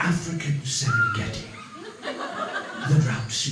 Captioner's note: bird cawing